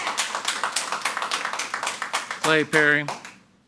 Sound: audience applauding

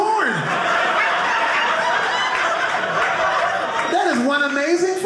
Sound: audience laughing

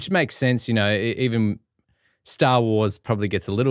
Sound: none

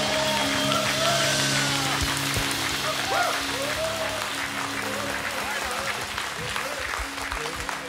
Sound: cheers and applause

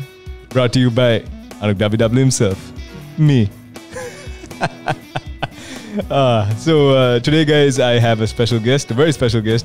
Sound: laughs

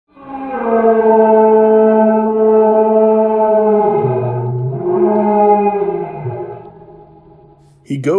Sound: distant howl

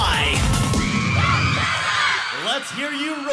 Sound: cheering

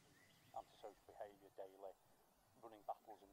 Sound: faint sound of a TV in the background

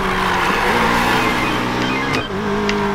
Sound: phone rings

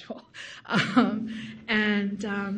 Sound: laughs loudly

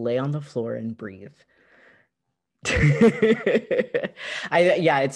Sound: laughter

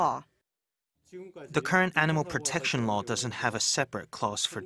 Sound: Korean

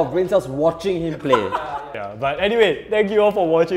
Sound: laughs

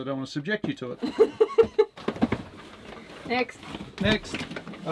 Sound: chuckles

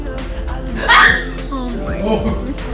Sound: screams

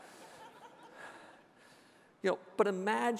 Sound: audience laughing

